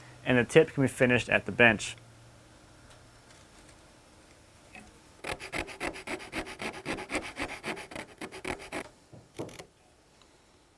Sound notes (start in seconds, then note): 5.2 file grinding